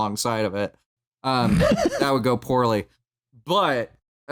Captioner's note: laughs